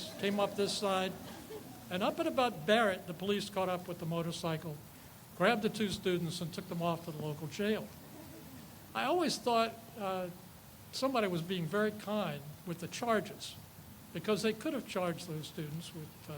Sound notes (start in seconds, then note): 0.0 people laugh; 7.9 people chuckle